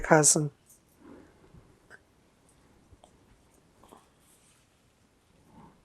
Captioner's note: pauses 8 seconds